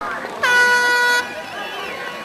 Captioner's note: starter horn blares; people clapping and chattering